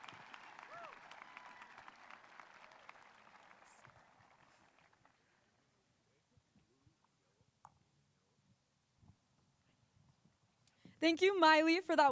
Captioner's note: cheers and applause